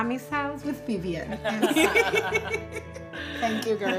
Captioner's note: all laughing